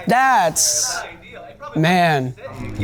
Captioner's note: stunt team chattering